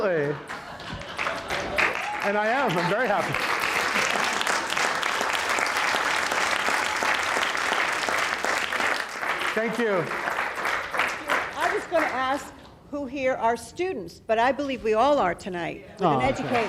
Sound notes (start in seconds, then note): 0.4 laughter; 4.2 audience applauds